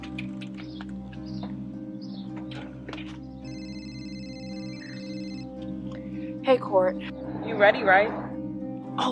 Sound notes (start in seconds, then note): 3.3 cellphone ringing